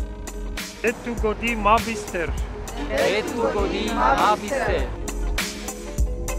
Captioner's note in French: en romani